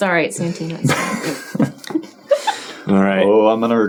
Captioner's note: chuckling